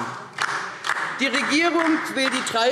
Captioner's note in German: Beifall DIE LINKE